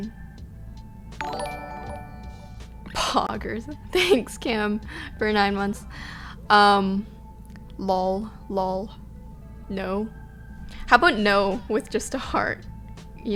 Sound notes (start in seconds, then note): 1.2 notification tingling; 3.6 she laughs